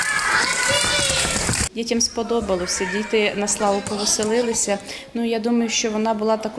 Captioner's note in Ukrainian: лунають аплодисменти дітей